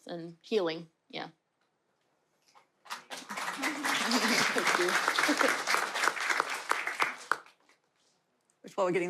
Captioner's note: applause